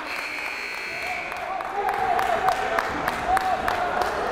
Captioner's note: timer buzzes